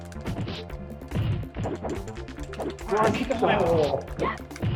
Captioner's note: limbs whooshing; legs thudding